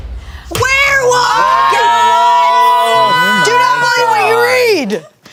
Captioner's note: dramatic music; everyone exclaims